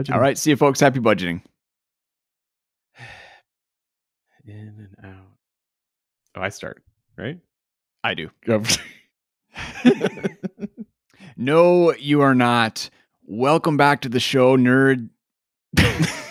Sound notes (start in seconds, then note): 3.0 sighs; 9.6 chuckles; 15.8 both chuckling